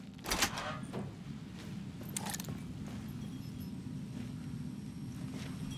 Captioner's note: wind whistling